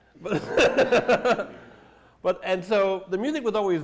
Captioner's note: laughter